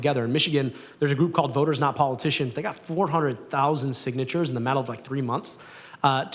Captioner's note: none